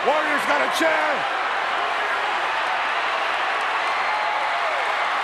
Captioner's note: crowd cheering